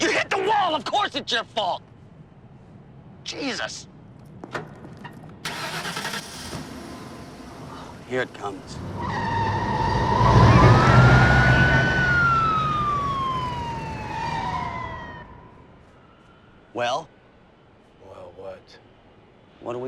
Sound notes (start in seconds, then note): 10.9 siren wailing